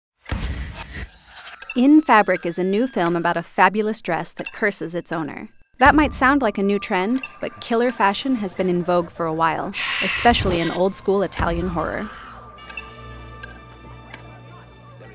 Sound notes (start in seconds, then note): 1.0 eerie tones; 12.2 woman screaming; 13.0 eerie tones